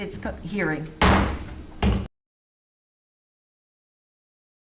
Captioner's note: gavel pounding